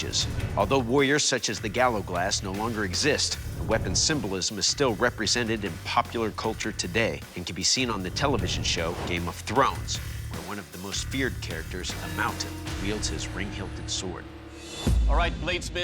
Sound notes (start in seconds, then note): none